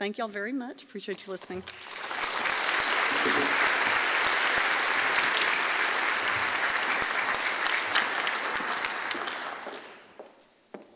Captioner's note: applause